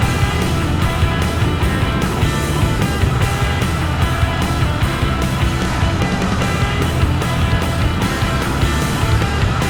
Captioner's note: engine revving